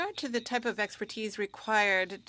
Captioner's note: speaking French